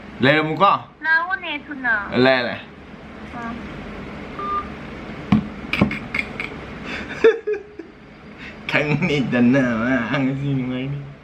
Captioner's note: laughs